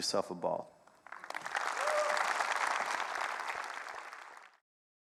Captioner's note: audience applauding